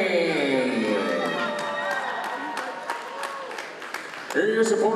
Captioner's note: crowd cheering